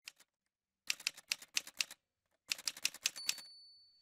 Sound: typewriter sounds

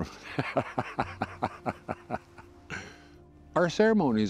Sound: laughing

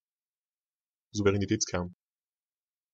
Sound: fast Pronunciation

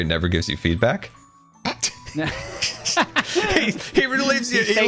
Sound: laugh

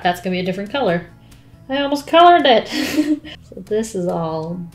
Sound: laughs

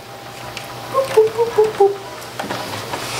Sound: dial beeping; bouncy, playful music

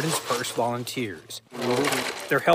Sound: sifting

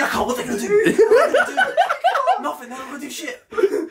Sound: laughing

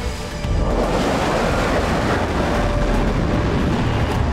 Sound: plane whizzing

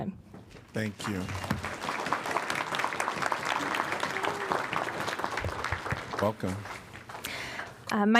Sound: applause

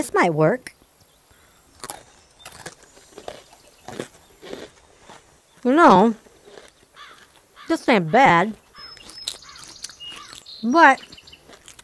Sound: chew

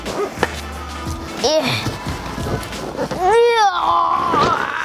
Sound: groaning

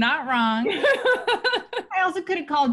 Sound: laughs

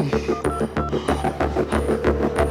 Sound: phone beeping; phone ringing

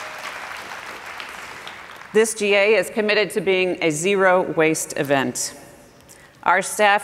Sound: applause

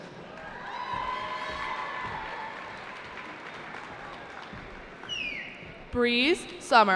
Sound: cheering

